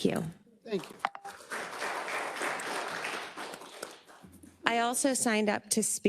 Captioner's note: attendees applauding